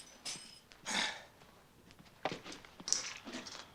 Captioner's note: sighs